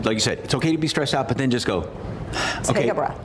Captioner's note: exhales deeply